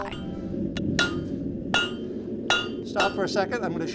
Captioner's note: metal banging